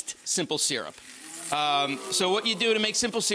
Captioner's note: crowd exclaiming